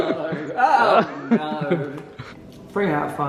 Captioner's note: laughs